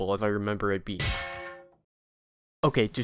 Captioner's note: metal impact sound